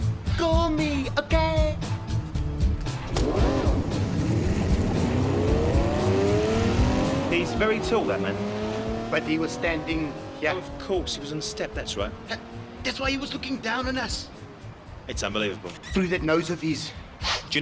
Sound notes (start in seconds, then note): 3.3 car roars away